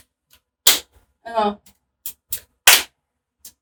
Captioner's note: clapping